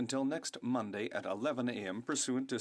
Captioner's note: speaking French